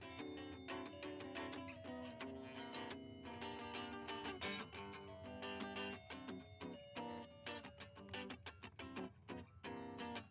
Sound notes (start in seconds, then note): 0.6 guitar solo; 5.4 dinging